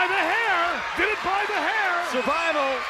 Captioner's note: audience cheers